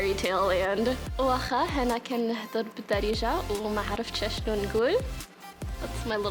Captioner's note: speaking in Darija